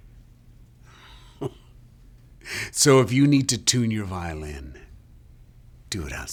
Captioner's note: chuckles